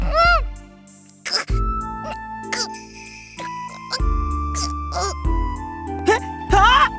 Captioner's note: gag; choke